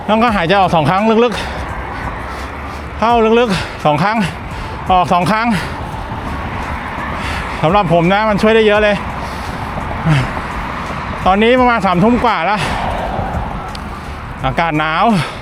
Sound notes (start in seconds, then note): 10.4 sighs